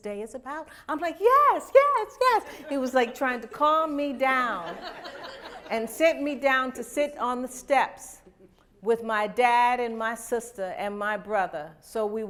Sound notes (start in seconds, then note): 4.4 laughter